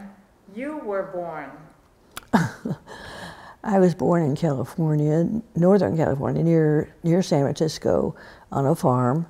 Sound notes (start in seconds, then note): 2.2 laughs